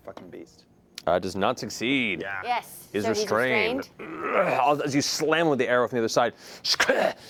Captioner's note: grunts; grunts